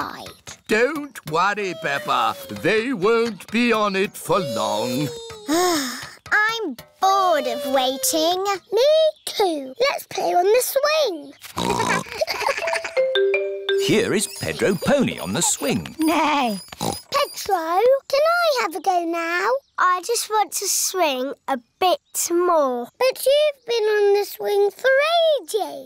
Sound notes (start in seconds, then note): 5.4 sighs; 11.5 oinks; 11.9 laughter; 16.5 oinks; 16.6 neighs